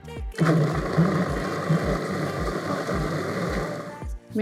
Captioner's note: blender whirring